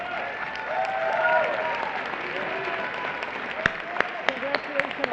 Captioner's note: applause